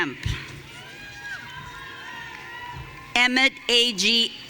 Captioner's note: audience cheering